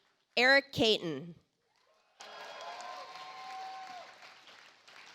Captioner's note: audience applauds